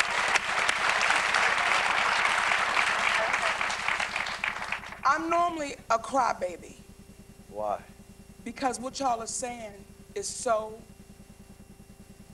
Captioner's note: applause